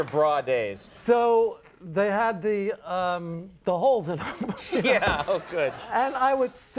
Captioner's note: laughs